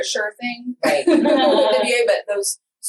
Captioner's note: laughs